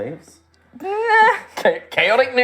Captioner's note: rueful sound